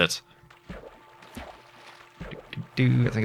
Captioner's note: hums